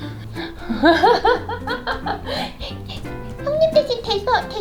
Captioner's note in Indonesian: tertawa